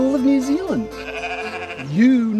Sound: baaaa

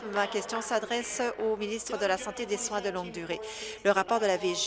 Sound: applause

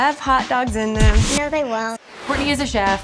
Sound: record scratch

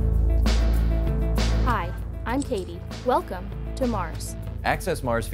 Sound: computer audio

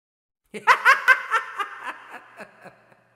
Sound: laugh

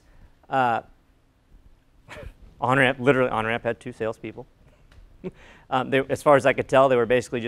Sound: laugh

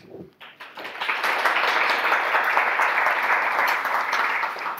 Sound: audience applause

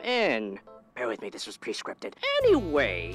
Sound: hushed

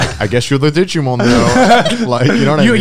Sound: laughing softly

